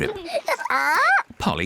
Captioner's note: polly squawks